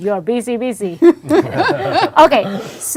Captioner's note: group laughing